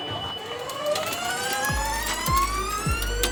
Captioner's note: electric motor sound